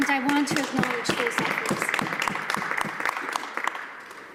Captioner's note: applause